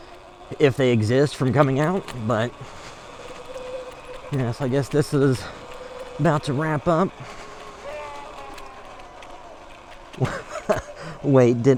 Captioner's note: yell in the distance